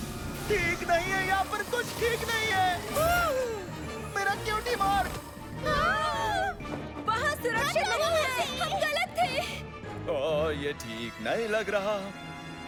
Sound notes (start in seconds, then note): 5.6 screaming